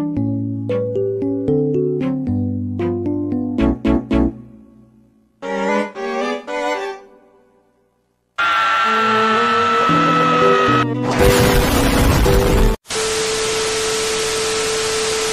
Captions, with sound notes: Spongebob's First Death AAAAAAAAAAAAAAAA *Insert Explosion sound here* We will be right back. once SpongeBob turns back on his webcam